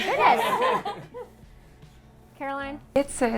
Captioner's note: all laugh